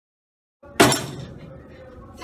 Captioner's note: strike the table